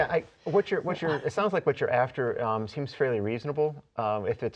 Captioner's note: laughing